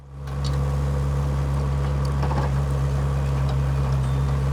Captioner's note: trench engine running